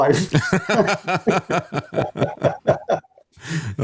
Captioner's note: laughing